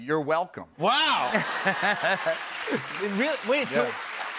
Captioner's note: laughter and applause